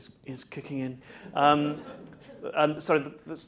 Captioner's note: laughter